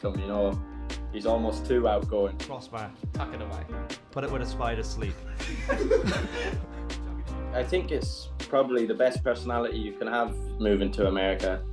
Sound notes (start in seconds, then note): 5.4 everyone chuckles